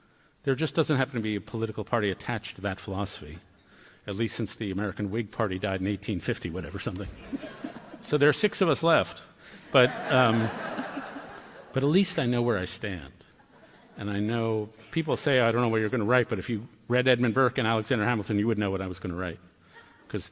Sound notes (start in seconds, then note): 9.6 laughter